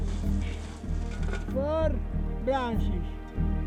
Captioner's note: man shouting